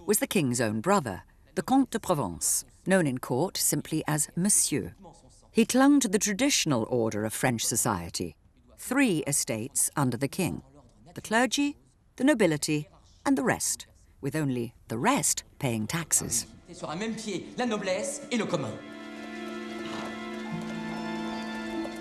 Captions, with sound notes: was the king's own brother. The comte de Provence, known in court simply as Monsieur. He clung to the traditional order of French society. Three estates under the king: the clergy, the nobility, and the rest, with only the rest paying taxes. (man speaking in French) (gentle music)